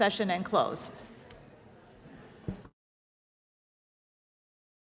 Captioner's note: chatter